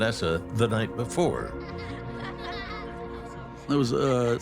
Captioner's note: children's laughter